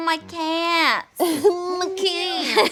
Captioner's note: laughing